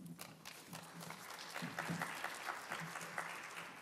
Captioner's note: applause